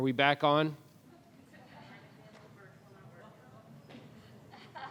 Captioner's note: woman laughs